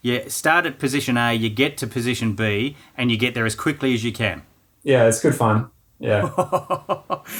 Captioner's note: laughing